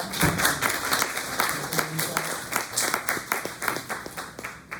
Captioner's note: applause